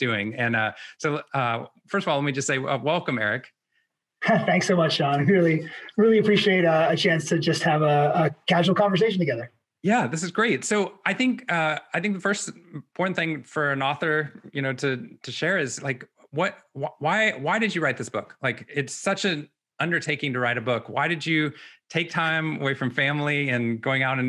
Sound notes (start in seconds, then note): 4.2 laughs